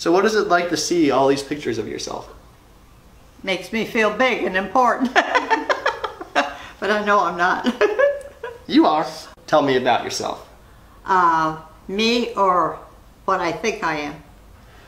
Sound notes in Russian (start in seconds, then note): 7.6 смеётся